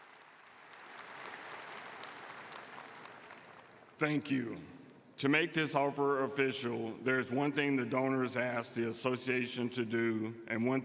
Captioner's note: applause